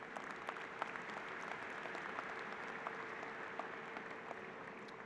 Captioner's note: applause